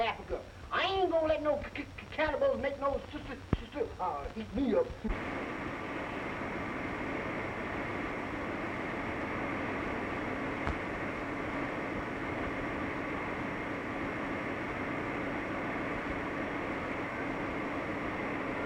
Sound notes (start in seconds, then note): none